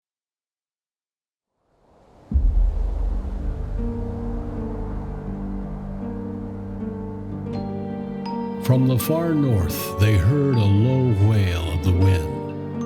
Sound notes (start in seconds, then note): 1.6 wind howling